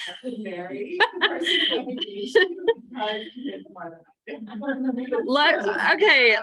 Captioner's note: laughs